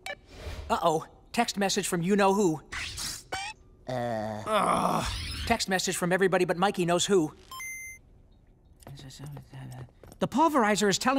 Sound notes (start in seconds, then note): 3.8 groaning